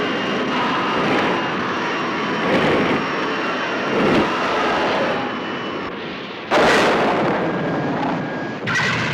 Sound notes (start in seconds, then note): 6.1 booming